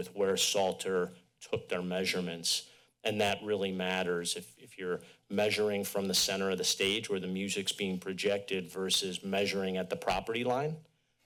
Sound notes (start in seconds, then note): none